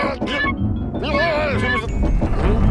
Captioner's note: rumbling sound